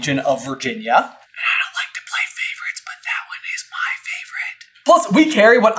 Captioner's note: whisper